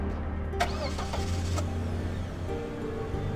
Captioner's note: car engine starts